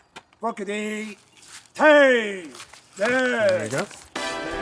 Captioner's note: orders in Latin